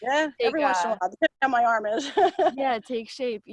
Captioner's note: laughs